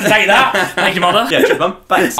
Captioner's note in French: rire